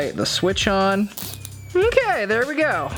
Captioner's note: tie zipping